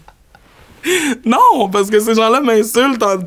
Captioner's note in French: éclat de rire